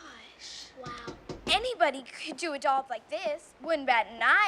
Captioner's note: knocking